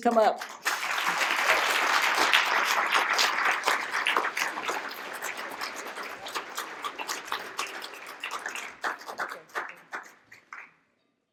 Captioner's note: applause